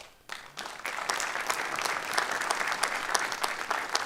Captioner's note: applause